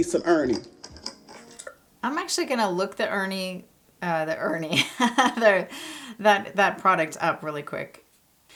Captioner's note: laugh